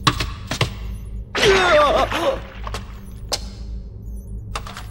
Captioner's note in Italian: gemiti di dolore